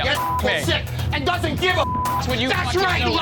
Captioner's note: beep